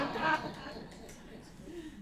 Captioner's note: laughter